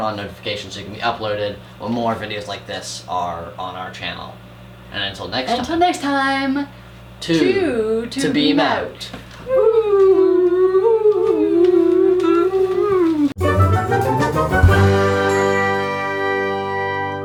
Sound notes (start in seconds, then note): 9.4 whoooo; 13.4 end theme music